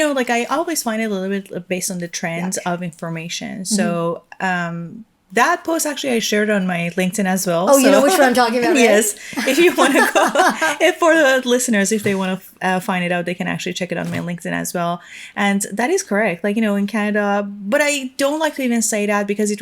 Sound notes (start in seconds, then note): 9.2 chuckling